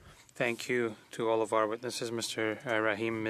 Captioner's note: speaking French